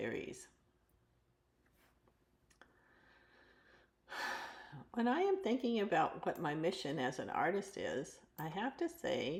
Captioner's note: sighs and gasps